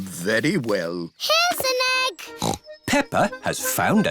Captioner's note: snorts